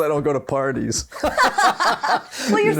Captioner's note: both laughing